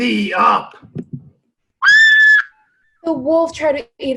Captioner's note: screams